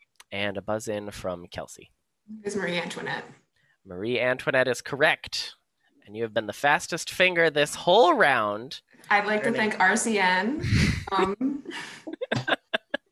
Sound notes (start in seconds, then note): 11.9 laughter